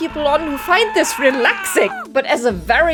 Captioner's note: man screaming